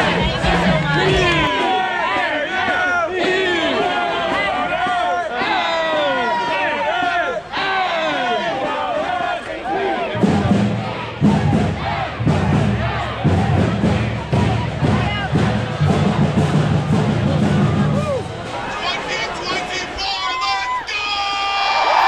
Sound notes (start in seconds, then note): 1.7 crowd chanting; 10.2 percussion beats